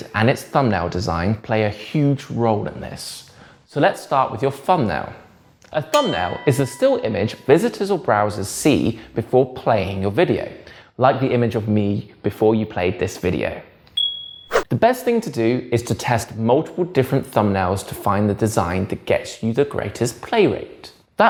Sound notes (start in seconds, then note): 5.9 bell dings; 14.0 bell dings; 14.0 page whips